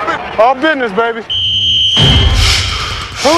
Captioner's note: whistle blows